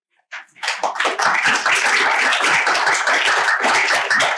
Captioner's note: applause